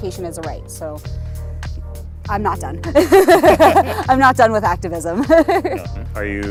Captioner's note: laughs